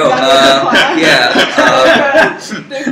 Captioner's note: laugh